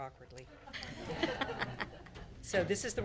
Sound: everyone laughs

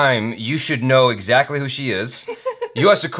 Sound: laughs

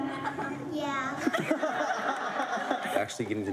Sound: laughter

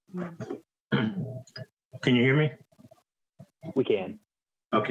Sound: coughs

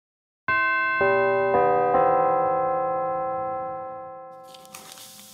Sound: bells chime

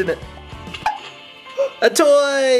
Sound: popping

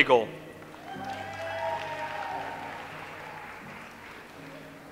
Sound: audience applauds

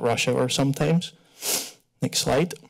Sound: sniff

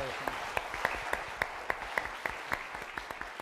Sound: applause

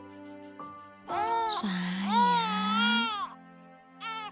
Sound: baby crying

